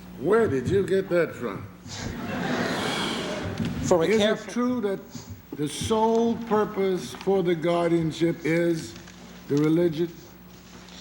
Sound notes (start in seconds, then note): 2.0 laughter